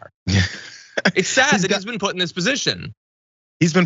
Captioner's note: laugh